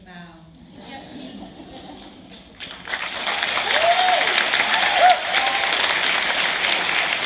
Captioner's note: applause